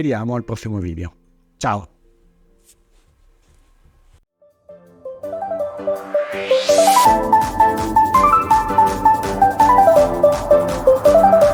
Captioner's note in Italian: Applauso